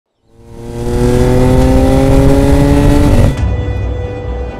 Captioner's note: engine roaring